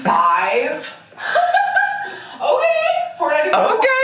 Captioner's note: laughing